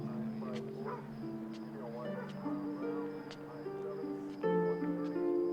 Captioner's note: radio chattering; soft piano music